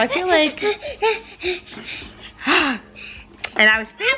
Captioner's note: panting